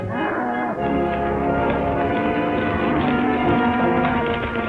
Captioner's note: hooves clatter